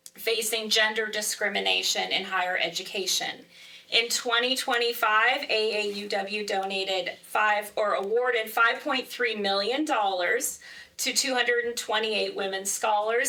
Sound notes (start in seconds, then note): none